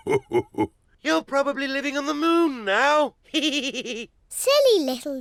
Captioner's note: laughs; chuckles